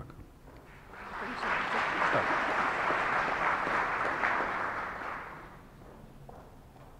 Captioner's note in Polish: oklaski